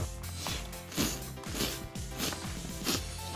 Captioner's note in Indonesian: Menyeruput mie tanpa henti